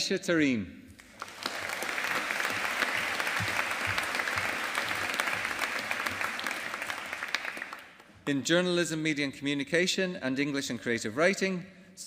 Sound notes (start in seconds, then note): 1.0 audience applauding